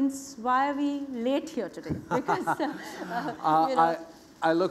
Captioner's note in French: Rires